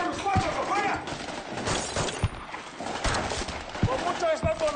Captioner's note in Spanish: Disparos